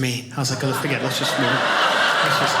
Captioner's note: audience laughing